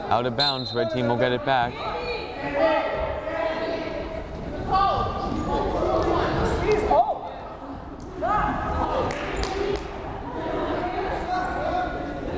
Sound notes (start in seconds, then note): 2.5 crowd chattering